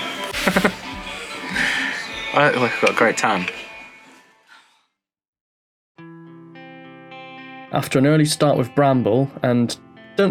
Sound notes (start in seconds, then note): 0.0 laughs; 2.1 slightly slurring